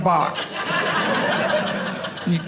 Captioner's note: audience laughing